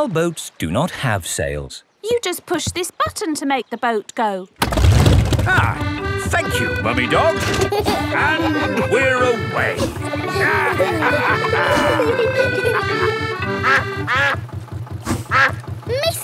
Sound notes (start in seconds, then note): 5.1 boat engine revs; 7.7 kids giggling; 10.6 all laughing; 13.7 quacking